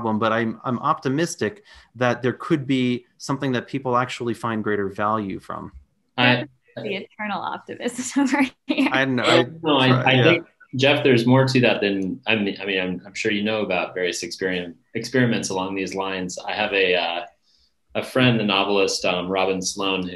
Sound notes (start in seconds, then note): 6.2 audio distorting; 9.0 laughs